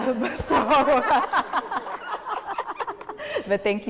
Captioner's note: people laughing